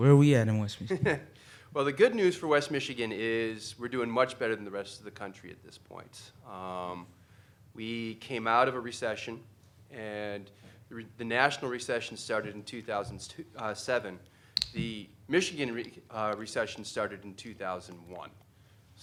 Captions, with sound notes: >> Where are we at in West Michigan? >> (chuckling) Well, the good news for West Michigan is we're doing much better than the rest of the country at this point. We came out of a recession. And the national recession started in 2007. The Michigan recession started in 2001.